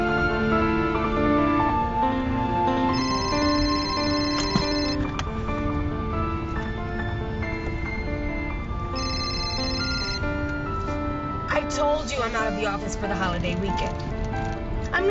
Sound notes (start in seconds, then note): 2.9 phone ringing